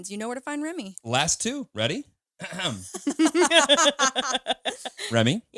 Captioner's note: all laughing